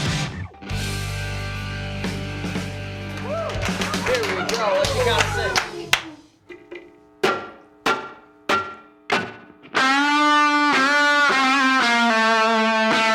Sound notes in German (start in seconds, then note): 3.0 applaus; 9.1 gitarre spielt